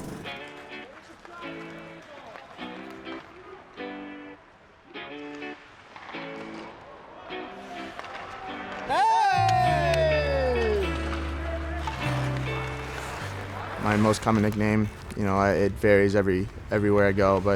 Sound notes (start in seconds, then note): 0.3 lively upbeat music; 8.8 people cheering; 10.8 lively upbeat music